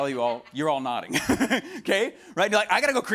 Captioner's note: laughs